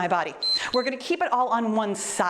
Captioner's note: timer beeps